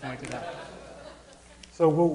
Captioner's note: audience laughing